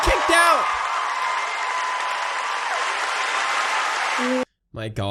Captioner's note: more applause and cheering